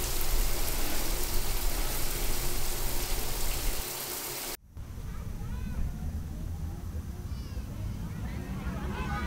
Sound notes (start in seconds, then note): 2.2 children chattering